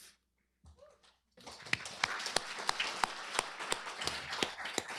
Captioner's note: applause